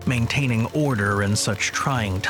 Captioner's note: film projector whirring